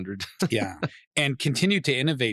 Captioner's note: laughing